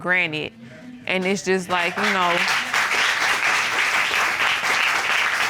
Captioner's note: audience applauding